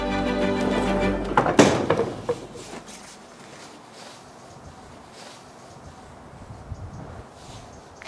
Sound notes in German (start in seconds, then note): 1.0 Lautes Zufallen der Tür